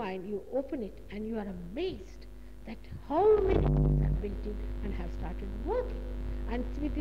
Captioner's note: noise in mp3